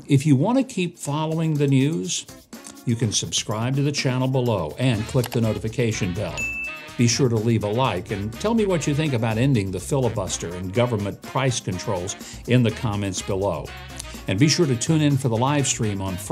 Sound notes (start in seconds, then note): 6.3 bell dings